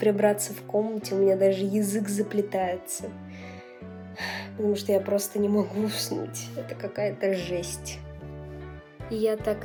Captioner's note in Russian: вздох